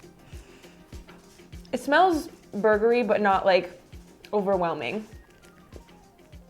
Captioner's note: sniffs